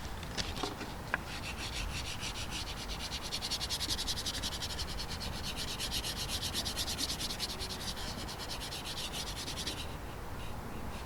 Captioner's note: sketching sounds